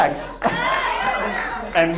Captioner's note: audience cheers